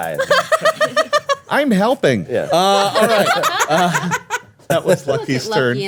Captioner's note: everyone laughing